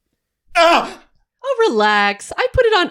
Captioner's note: screams